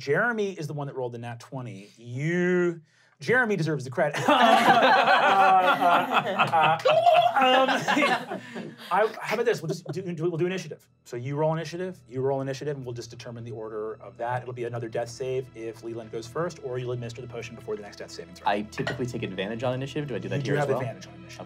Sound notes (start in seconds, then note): 4.2 laughing; 7.1 trilling